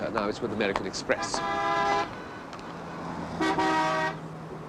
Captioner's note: car horns